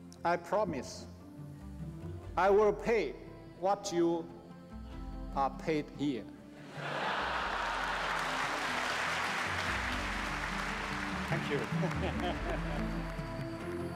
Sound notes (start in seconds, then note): 6.6 laughter; 6.7 applause